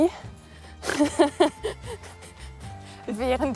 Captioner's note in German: beide lachen